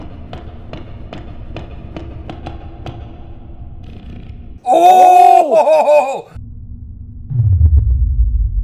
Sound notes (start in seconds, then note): 4.6 laughs